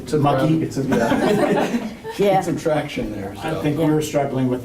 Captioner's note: laughter